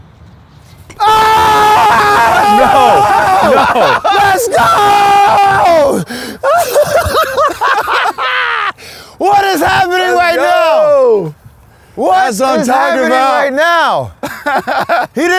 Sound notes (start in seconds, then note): 0.9 screams; 5.4 laughs; 14.1 laughs